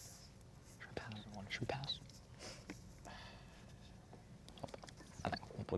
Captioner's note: whispering